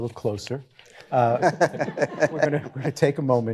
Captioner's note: all chuckling